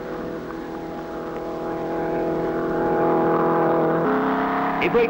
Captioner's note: engine revving